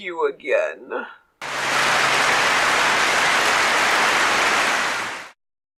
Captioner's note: clapping